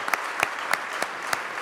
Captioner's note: applause